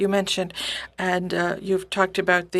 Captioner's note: speaking French